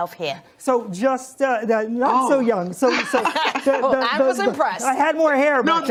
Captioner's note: laughs